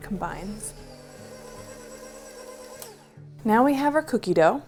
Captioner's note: machine whirring